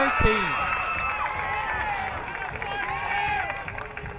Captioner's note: crowd cheering